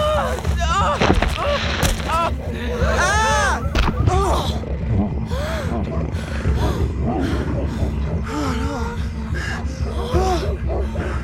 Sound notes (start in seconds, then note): 0.1 אולי נאנח; 5.2 מתנשפים